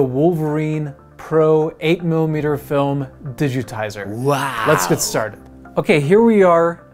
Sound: silly male voice: wow!

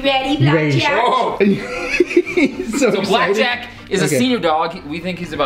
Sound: Rocky laughs

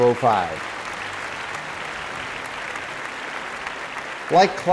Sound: applause

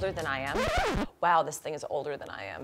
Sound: record scratching

